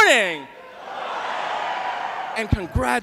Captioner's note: cheering